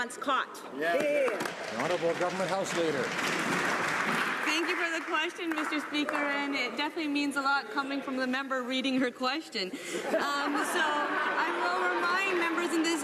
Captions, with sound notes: WHY THE LIBERALS ONLY BELIEVE THESE EXPENSES WERE UNREASONABLE ONCE CAUGHT. (APPLAUSE). >> HONOURABLE GOVERNMENT HOUSE LEADER. >> THANK YOU FOR THE QUESTION, Mr. SPEAKER. AND IT DEFINITELY MEANS A LOT COMING FROM THE MEMBER READING HER QUESTION.